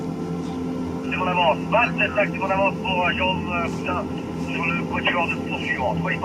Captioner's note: man speaking foreign language over radio